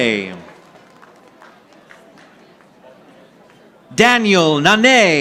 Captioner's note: audience applauding